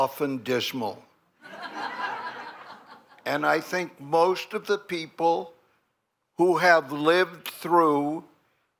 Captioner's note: laughter